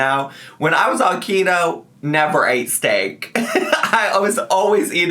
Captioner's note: laughs